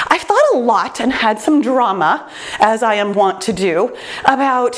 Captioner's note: none